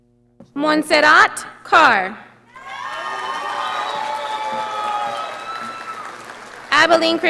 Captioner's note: audience applauding